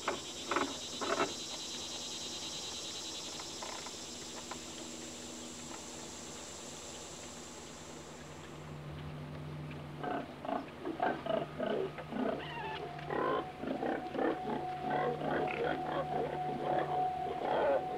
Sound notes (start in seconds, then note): 10.2 pigs snorting; 12.4 eerie music